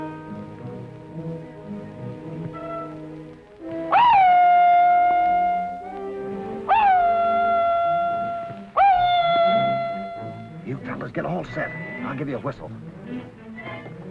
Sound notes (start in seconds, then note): 0.0 worrying music; 3.8 whooping; 13.8 tense music